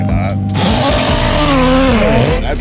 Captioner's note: engines revving